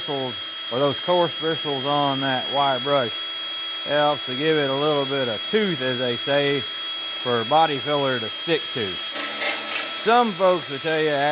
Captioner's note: drill Whirring